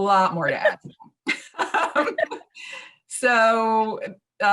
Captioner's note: both laughing